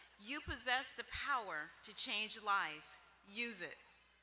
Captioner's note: none